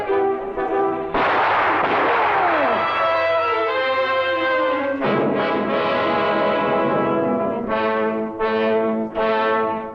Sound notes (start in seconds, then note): 1.1 gun blasting; 3.1 intense orchestral music